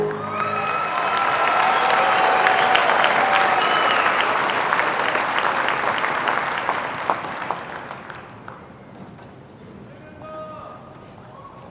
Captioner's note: applause